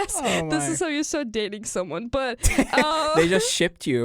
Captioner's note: both laugh